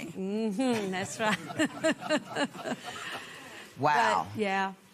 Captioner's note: laughter